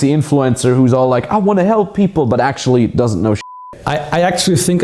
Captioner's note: beeping